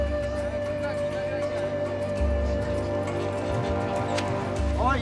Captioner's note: chattering Continues